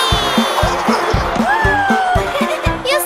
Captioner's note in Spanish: Risas